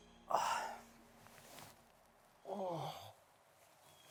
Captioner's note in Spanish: Jonathan gime